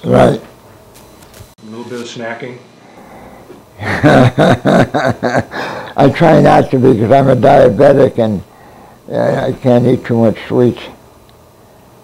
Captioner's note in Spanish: risas